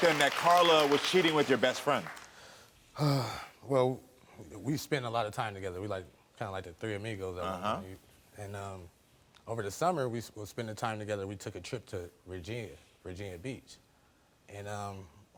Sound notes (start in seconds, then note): 3.0 sighs